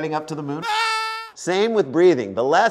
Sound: scream

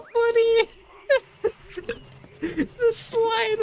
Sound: high pitched laughing

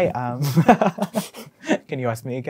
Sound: laughing

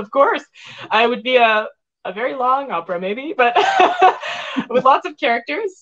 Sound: laughs

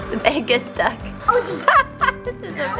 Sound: laughs

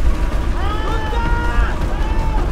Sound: Alex screams in foreign language

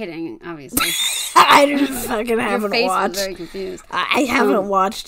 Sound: laughs

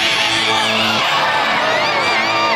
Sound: cheering

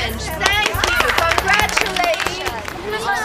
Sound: applauding

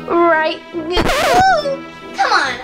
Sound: record scratching

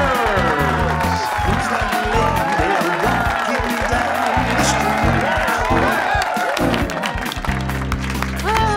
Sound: cheering, applause

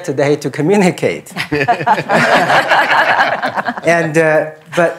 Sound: laughter

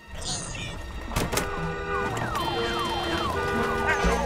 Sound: honking & sirens; yapping

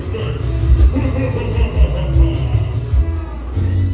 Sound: Admiral Orc Laughs

